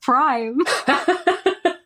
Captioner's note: laughing